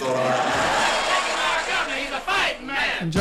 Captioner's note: laughs